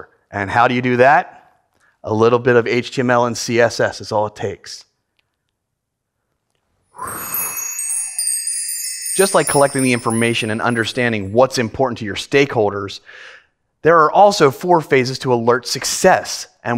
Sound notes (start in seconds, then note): 6.9 crystals jangle together